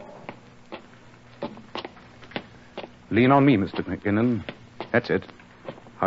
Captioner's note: steps